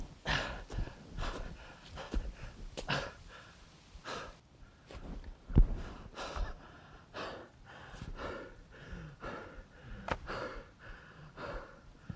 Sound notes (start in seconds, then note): 3.0 Arawn breathing heavily